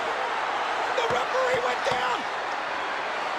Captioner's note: crowd cheering